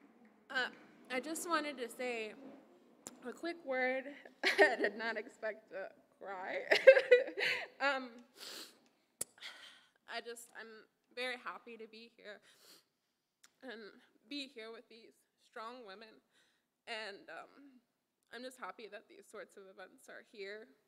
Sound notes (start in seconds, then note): 6.6 laughs